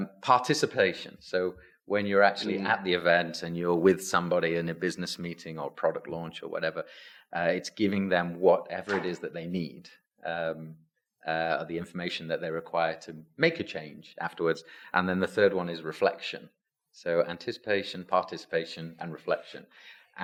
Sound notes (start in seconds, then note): none